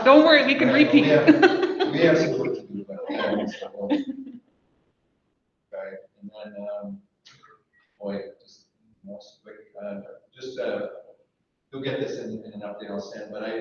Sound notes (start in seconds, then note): 2.2 laughs